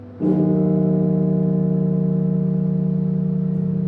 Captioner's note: bell tolling; somber music